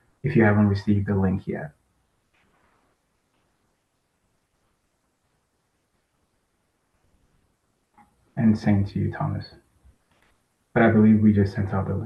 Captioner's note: pause